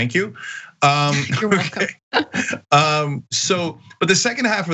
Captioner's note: laugh